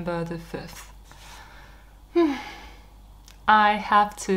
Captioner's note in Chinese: 深呼吸